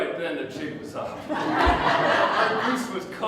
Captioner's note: audience Laughter